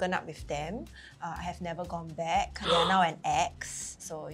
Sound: gasps

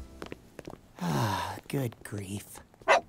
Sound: sigh

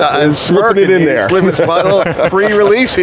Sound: host chattering

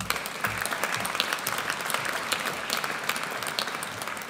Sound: audience applauds

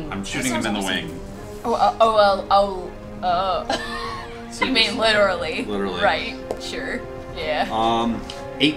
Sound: laughs

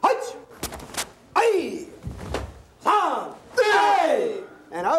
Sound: speaking foreign language

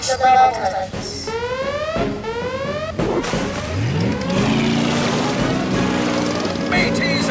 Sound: siren blaring

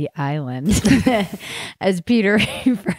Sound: laughing

